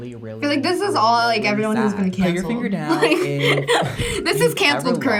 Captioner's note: laughs